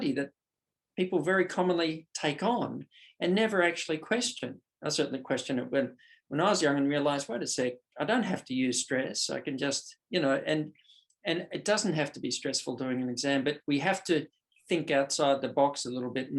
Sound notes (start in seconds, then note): none